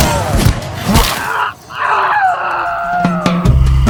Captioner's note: meaty stab and a tortured scream